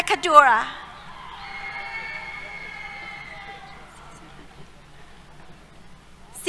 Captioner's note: cheers